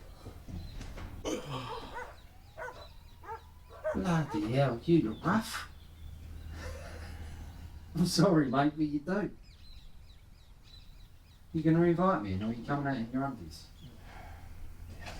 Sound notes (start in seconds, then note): 1.2 Dan yawns; 7.3 laughs